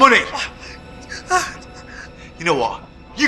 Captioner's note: Clive whimpering